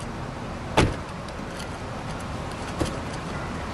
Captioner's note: затваряне на врата